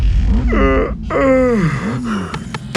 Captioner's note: yawn